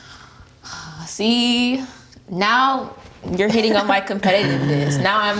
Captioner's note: sighs